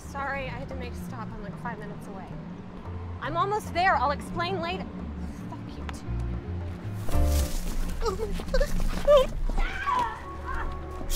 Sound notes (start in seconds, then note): 8.2 Cassidy gasping; 9.5 Cassidy screaming